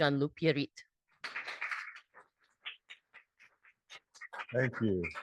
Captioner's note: audience applauds